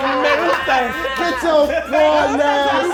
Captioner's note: laughing; speaking in a foreign language